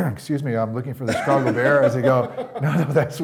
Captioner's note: laughing